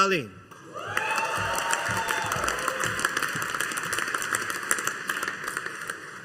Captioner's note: audience applauding